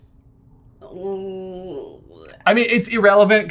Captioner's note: makes concerned waffling noises